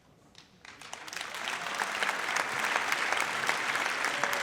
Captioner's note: audience applauds